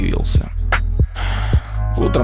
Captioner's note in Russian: Вздох